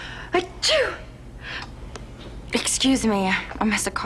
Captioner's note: sneezing